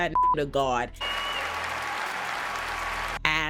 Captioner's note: audience applauding